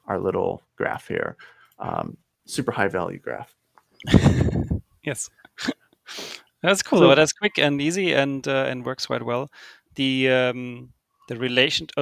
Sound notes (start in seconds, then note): 4.0 chuckles; 4.0 laughing